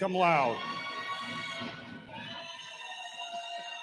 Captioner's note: cheering